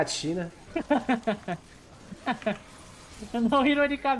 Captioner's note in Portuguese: risos